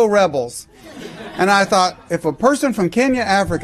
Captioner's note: laughter